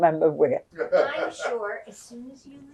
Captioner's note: laughing